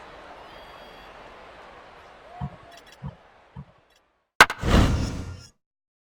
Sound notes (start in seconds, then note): 4.4 whack!; 4.5 whoosh!